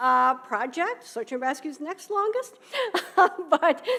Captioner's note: laughing